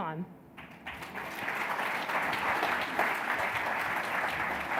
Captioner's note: audience applauds